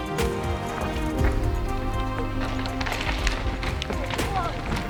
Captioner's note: bike tires scuffling through berms